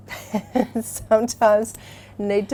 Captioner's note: laughs